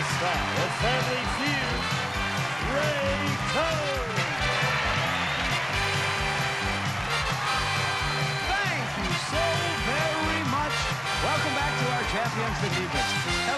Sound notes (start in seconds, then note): 0.0 upbeat music; 5.1 cheers and applause